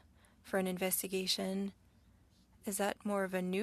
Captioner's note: speaking French